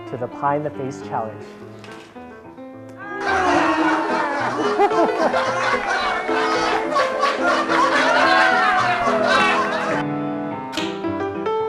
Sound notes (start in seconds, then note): 10.7 laughter